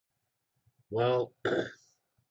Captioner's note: cough